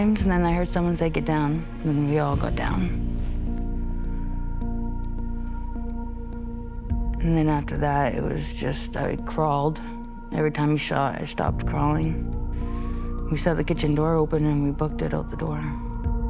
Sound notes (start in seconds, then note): 2.9 breathes deeply